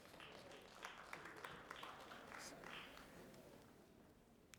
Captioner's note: audience applauding